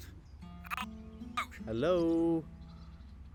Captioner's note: phone glitches